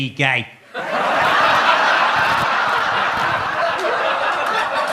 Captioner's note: audience laughs